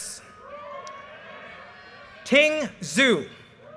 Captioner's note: audience cheers and applause